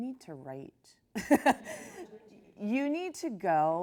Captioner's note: laughs